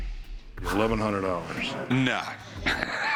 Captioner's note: laughing